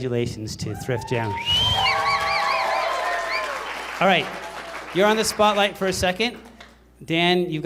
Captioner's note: applause